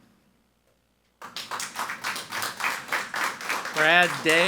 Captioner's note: people clapping